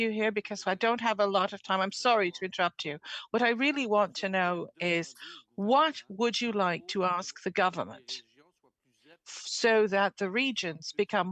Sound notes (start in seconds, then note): 6.4 speaking French